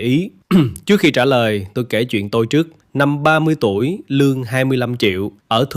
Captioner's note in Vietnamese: hắng giọng